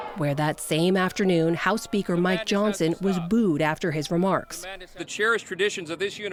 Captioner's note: loud booing